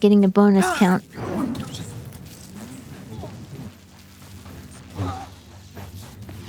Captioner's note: gunfire